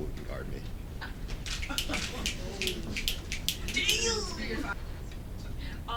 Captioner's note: snaps